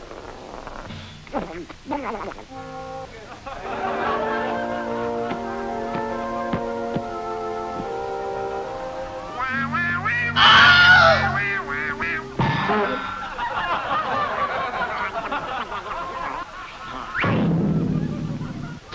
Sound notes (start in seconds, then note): 3.0 laughing; 9.5 singing; 10.3 scream; 12.4 crash; 13.1 laughing; 16.9 bang